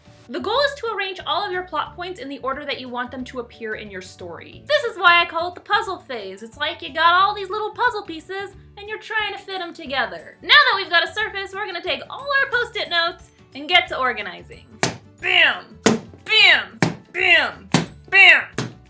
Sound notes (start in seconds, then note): 15.8 sound of post-it being slammed onto poster board